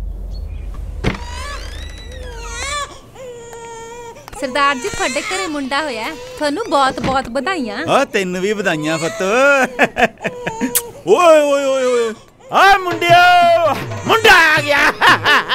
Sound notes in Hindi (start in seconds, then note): 2.2 बच्चा रो रहा है